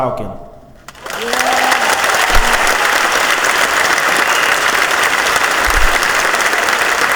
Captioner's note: audience cheers